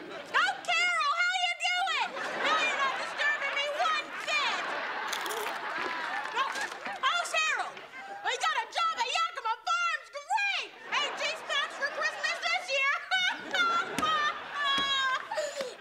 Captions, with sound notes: Oh Carol! How are ya doing? No you’re not disturbing me one bit! [crunching] How’s Harold? He got a job at Yacama Farms! Great! T.J. Maxx for Christmas this year! [laughing]